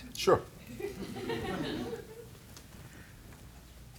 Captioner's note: laughter